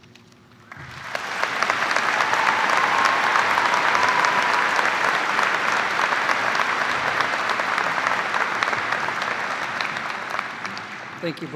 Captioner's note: cheers and applause